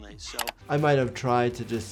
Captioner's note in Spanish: clic del mouse